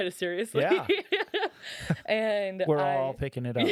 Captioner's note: laughing